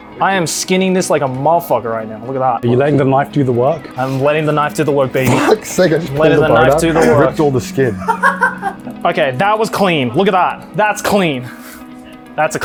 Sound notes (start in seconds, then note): 8.4 laughs